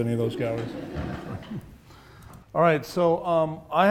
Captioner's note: audience laughs